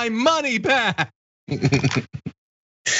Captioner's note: laugh